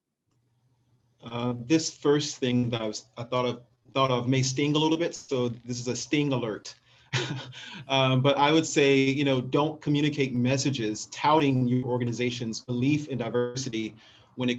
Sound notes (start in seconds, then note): 7.1 soft laugh